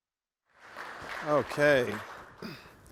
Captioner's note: applause